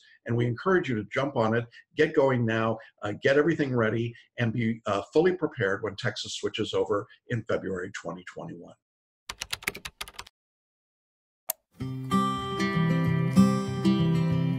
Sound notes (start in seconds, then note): 9.3 keyboard clicking; 11.8 happy music